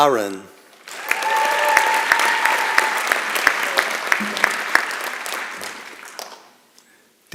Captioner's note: applause and Cheering